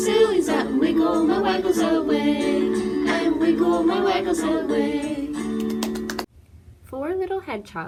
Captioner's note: claps